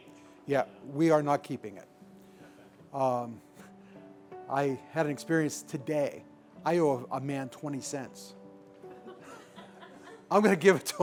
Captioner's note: laughter